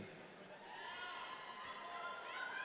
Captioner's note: audience cheering